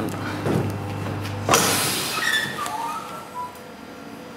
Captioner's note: hiss, squeak